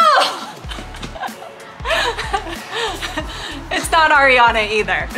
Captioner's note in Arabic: يضحك